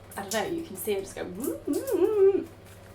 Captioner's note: humming